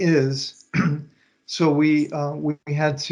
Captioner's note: clears throat